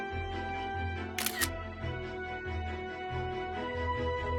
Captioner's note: camera shutter sound